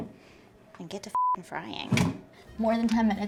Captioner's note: beep